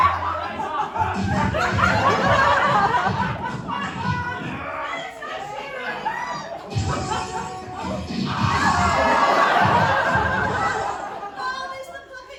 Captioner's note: cartoon fight noises